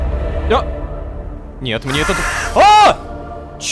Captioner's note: cawing